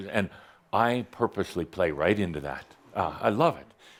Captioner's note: none